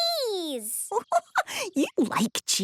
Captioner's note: giggling